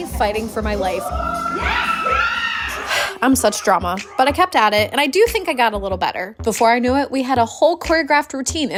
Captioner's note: screams